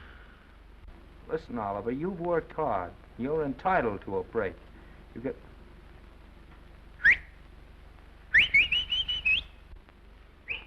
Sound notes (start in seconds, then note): 0.0 Oliver sighs; 6.5 whistles into phone